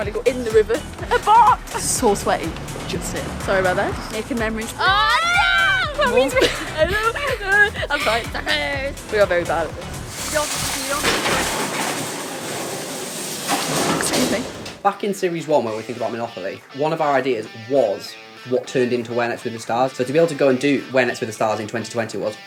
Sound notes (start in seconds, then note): 4.8 fake crying; 9.4 loud delivery unloading